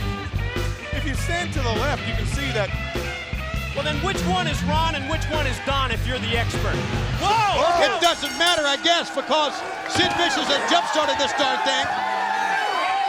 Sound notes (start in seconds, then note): 7.7 bell rings